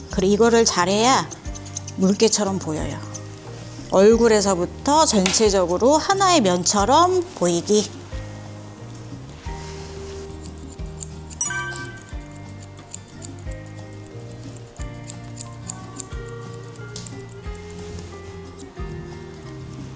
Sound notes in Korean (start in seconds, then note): 11.4 효과음/띠링하는 소리; 12.4 가위질 소리